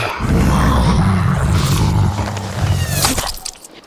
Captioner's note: growls; arrow whooshes